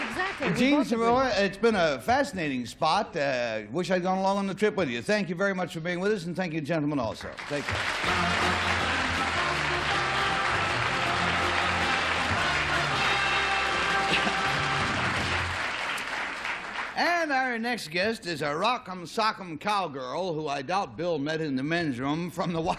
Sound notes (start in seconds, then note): 8.8 applause